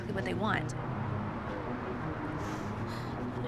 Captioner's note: sobs